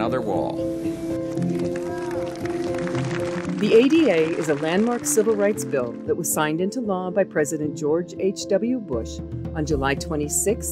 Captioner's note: clapping